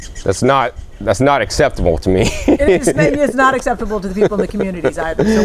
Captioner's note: laughter